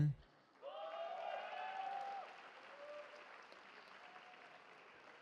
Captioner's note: cheering